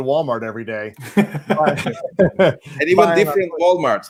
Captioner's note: laughs